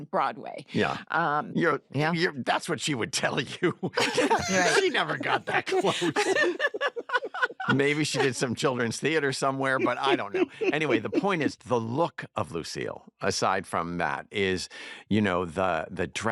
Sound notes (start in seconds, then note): 3.5 laughter; 6.1 laughter continues